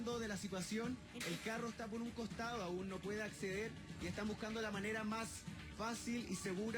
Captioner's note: non-english Language